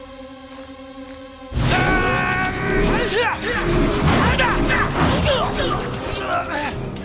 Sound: grunting

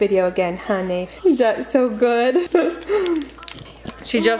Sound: chuckles

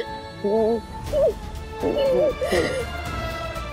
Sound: crying

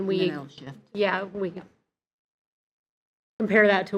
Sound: faintly speaking

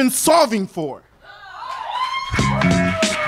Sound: audience cheers and applauds

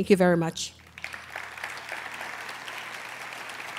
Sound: applause

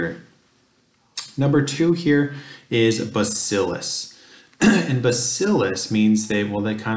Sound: cough

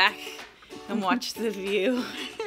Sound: laughing

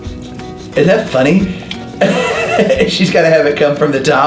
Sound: laughs

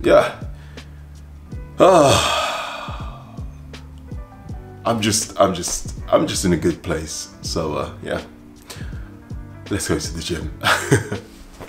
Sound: laughs

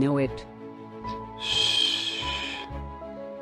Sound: shh

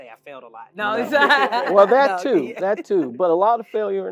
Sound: laugh

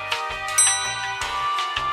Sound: ding!

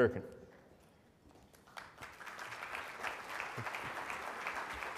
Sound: audience applauds

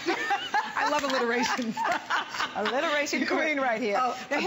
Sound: laughter

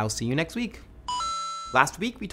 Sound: electronic tone

